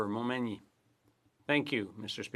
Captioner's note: speaking French